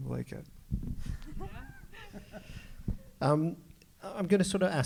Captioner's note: all laughs